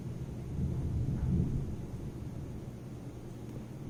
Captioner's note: thunder